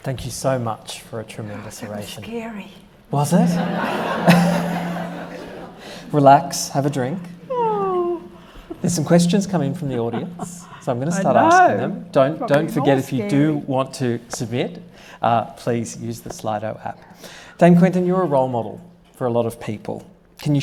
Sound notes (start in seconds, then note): 3.3 audience laughing